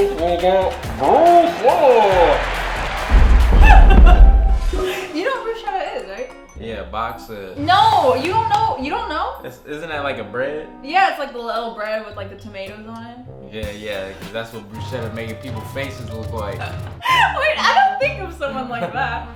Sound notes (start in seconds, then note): 2.3 crowd cheering; 2.8 heavy footsteps